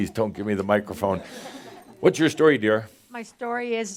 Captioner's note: some chuckles